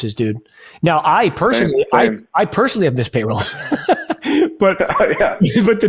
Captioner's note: laughs